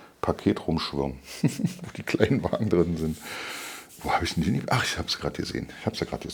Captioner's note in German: gelächter